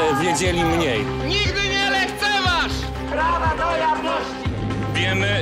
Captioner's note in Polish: okrzyki demonstrujących